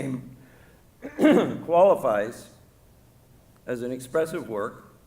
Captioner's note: clears throat